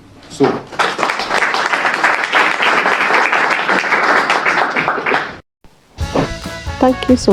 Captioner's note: applause